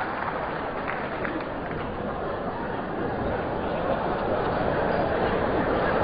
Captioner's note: laughter